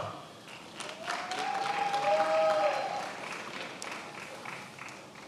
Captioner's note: attendees applauding